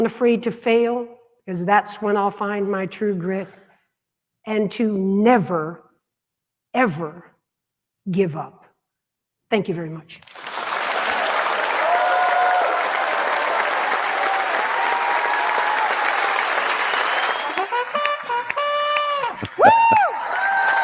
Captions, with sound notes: to be unafraid to fail because that's when I'll find my true grit and to never ever give up. Thank you very much. (audience applauding) (trumpet blaring) whooaa!